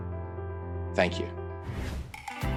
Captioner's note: air whooshing; upbeat music